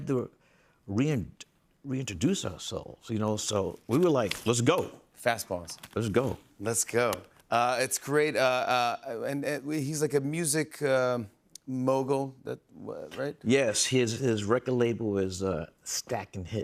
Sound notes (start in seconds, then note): none